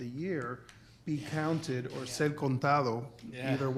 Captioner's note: speaking foreign language